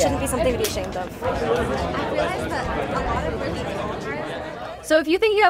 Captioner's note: crowd chattering